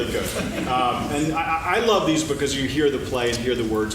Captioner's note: laughing